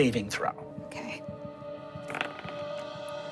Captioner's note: dice rolling; dramatic music